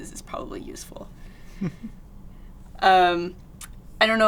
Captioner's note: chuckles